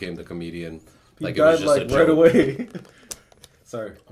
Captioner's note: laughs